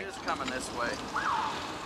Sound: siren; train whistle

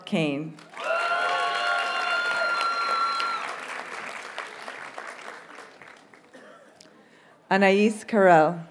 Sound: audience cheers and applauds

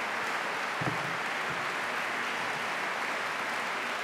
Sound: applause

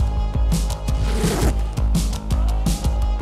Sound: zip

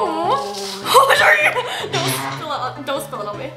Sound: hollers

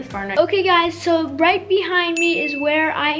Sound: bell dings

